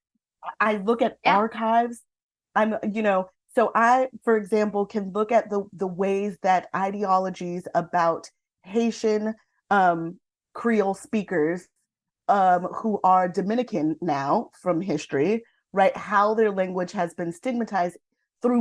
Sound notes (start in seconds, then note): none